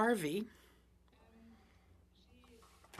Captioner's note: speaking French